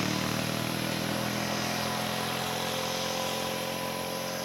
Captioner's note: insects chirping